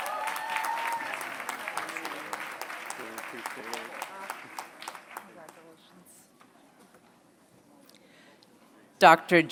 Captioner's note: applause